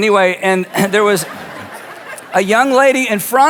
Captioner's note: audience laughs